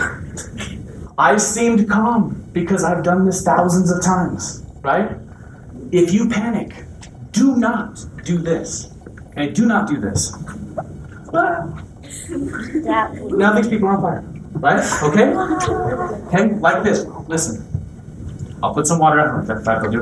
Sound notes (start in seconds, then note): 10.9 shrieks